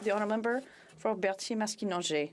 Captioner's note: speaking FRENCH